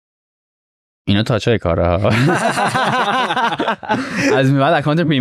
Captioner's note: laughs